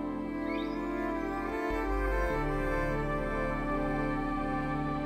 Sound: whales singing

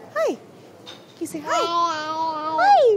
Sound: baby cooing

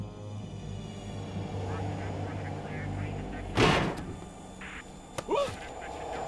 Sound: voices, static on radio

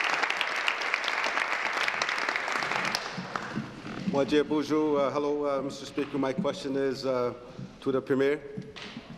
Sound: applause

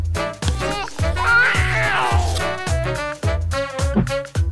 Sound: baby cries

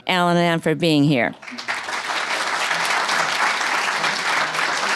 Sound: applause

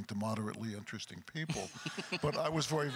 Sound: chuckles

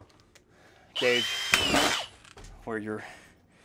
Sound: machine buzzing

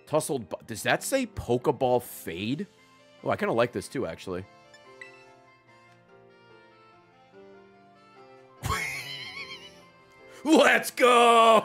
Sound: laughs

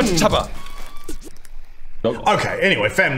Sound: record scratch

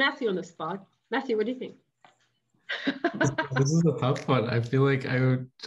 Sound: laughing

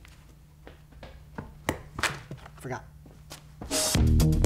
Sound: footsteps

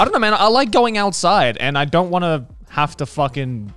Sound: none

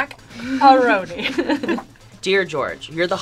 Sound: both chuckling

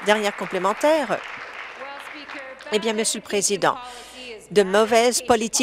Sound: applause

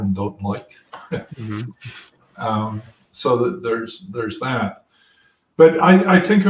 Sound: laugh

